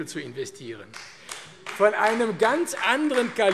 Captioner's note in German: Beifall AfD